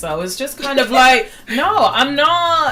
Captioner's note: laughs